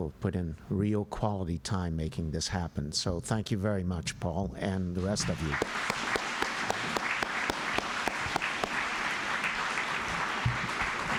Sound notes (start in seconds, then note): 5.3 applause